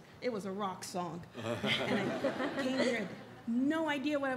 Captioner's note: audience laughs